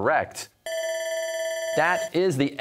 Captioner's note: bell ringing